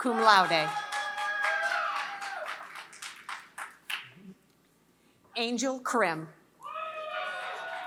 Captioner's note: applause; applause